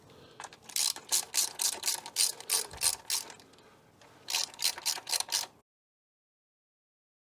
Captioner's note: ratchet Noisess